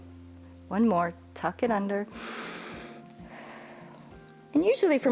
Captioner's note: inhales and exhales